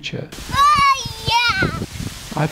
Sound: child playing

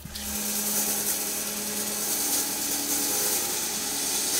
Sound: saw whirring

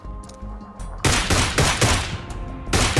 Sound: shooting

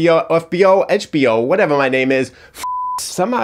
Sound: beep

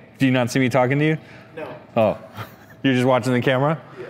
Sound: chuckles

